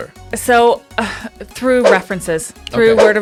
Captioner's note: air whooshing